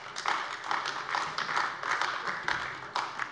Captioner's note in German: Beifall AfD